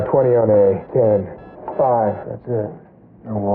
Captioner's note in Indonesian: Bip Stabil